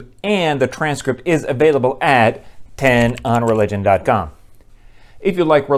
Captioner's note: typing